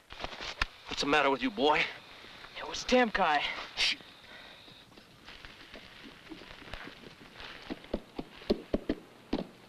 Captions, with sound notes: What's the matter with you, boy? - It was Temkai. (shushes)